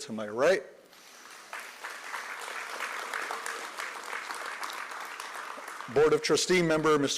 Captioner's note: applause